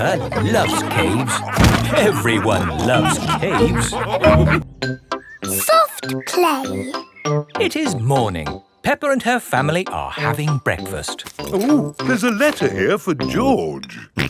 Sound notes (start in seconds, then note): 0.1 all laughing